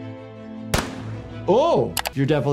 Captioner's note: gun booms